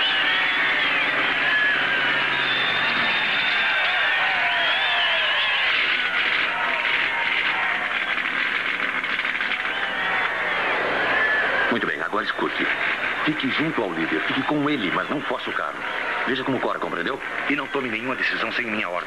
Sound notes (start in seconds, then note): 11.1 Colt Over Radio